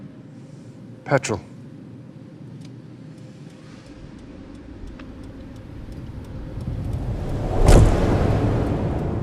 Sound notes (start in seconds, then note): 2.3 indicator clicks; 7.5 thud